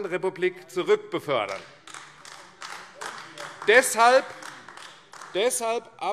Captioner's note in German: Beifall AfD